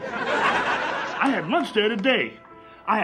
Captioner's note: audience laughs